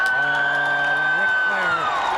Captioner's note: crowd cheers